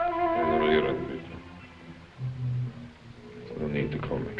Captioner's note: speaking foreign language